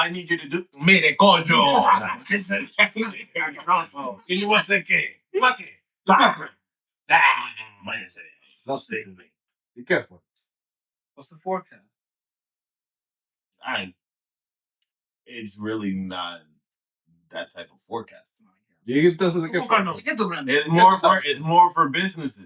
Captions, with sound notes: need you to do, I made a condo. (Laughing) And you want some cake? Maki, taco. Dang, man. Don't say it to me. Be careful. What's the forecast? All right. It's really not that type of forecast. You get to the granddance. It's more for businesses.